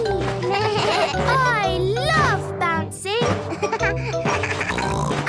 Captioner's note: giggles; bleating; giggles, snorts